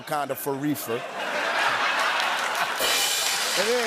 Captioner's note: laughter and applause; rimshot